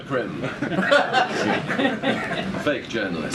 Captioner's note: laughter